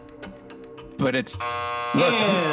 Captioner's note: buzzer